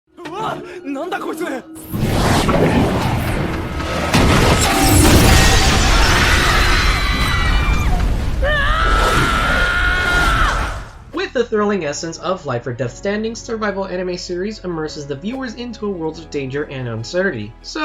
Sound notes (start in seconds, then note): 1.8 magic whirring; 4.1 window glass shatters; 5.3 students shrieking; 6.3 window glass shatters